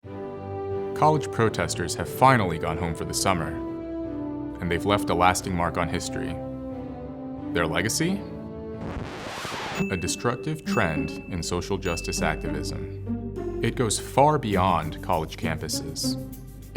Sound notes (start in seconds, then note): 8.8 record scratch